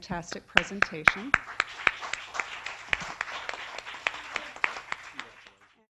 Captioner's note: applause